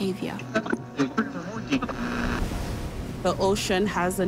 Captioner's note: static buzzes